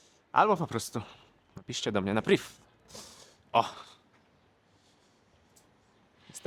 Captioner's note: snort